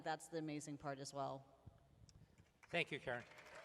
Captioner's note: applause